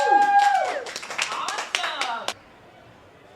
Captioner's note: audience applauding